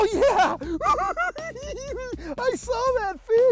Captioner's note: cackles